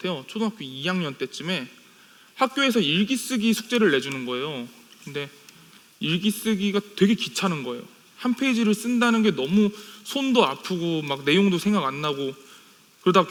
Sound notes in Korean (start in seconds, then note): none